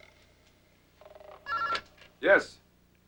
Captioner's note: ring